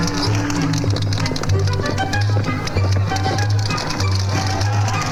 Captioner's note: gentle upbeat music; horse hooves clopping; gentle upbeat music